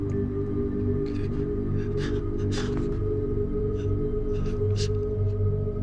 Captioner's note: heavy breathing